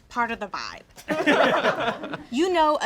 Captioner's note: all laugh